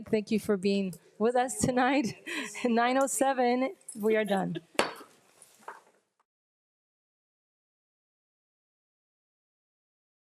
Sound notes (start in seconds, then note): 4.4 group laughs; 4.8 gavel taps